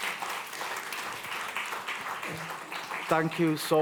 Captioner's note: applause